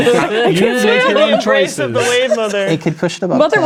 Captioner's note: others chatting and laughing